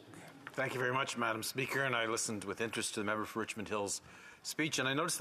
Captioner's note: speaking French